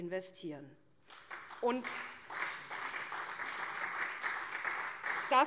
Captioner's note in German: Beifall SPD und CDU